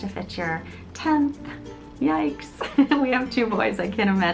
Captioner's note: laughs